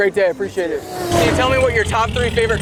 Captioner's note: car revs